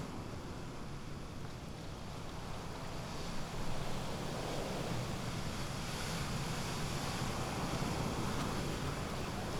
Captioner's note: waves crash amidst a deep wind